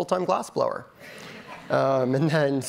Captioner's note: audience laughing